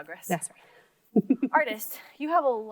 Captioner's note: laughs